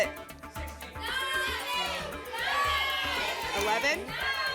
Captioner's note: audience shouting numbers